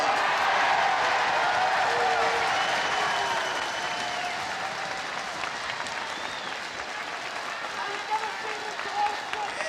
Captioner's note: heckling and applause